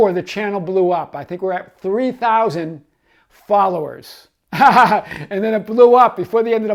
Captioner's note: laughs